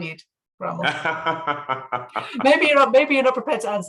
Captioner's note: laughing